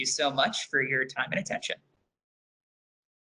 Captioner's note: none